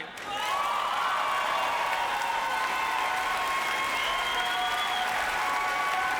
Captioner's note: applause; cheering